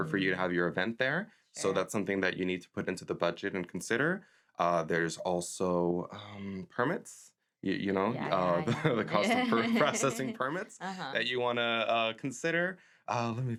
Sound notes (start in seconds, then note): 7.9 laughs